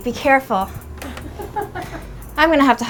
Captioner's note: laughing